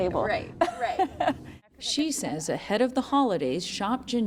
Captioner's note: laughter